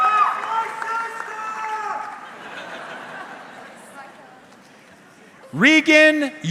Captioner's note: audience cheering; audience member shouting indistinctly